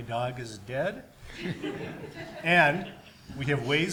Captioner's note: audience laughs